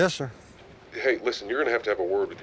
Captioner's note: on phone